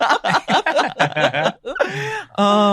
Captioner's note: laughs